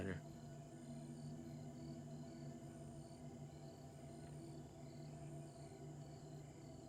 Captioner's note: crickets chirping; tense music